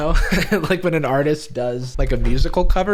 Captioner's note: laughs